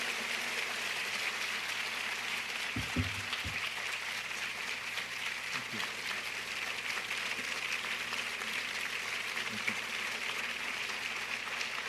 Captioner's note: applause